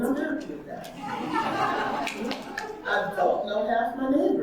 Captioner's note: audience laughing